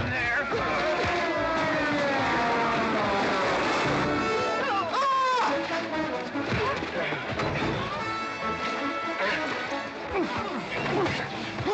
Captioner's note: western fight music; sounds of scuffling & fighting